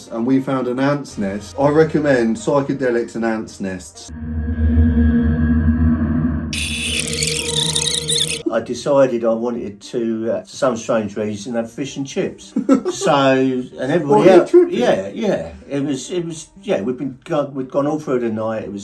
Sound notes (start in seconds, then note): 4.7 ominous music; 6.5 ants screeching